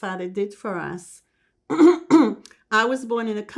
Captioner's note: clears throat